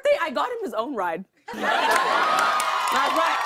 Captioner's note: cheers and applause